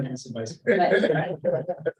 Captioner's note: laughter